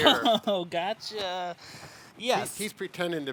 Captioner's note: laughs